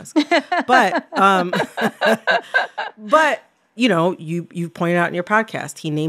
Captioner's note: laughter